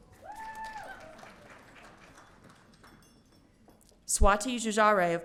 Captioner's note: audience cheering